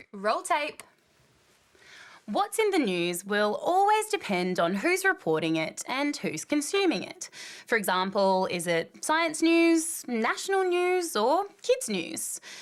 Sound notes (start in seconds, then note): none